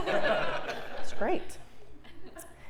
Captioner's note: laugh